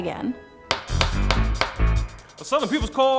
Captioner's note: gavel hits